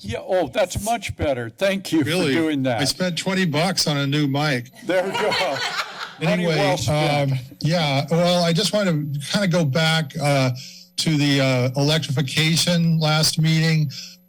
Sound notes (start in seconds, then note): 4.8 laughing